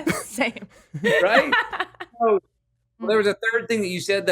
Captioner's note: laughs